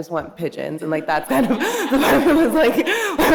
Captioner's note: audience laughing